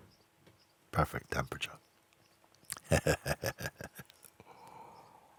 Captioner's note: laughs